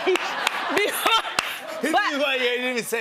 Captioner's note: laughter